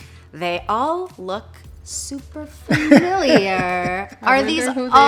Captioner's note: laughs